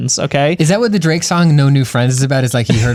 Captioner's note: pat